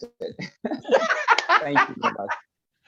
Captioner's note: laughs